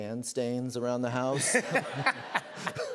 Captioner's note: laughter